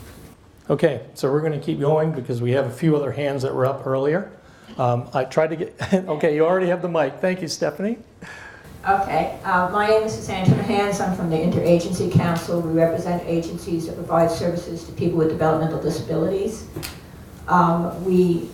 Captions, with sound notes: - So we're gonna keep going because we have a few other hands that were up earlier. I tried to get (chuckles), okay you already have the mic. Thank you, Stephanie. - My name is Suzanne Timmerhans, I'm from the InterAgency Council. We represent agencies to provide services to people with developmental disabilities.